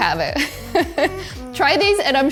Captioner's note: host laughing